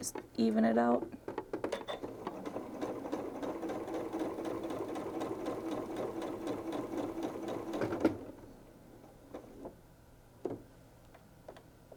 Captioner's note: sewing